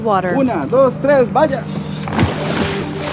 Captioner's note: speaking in a foreign language; water splashing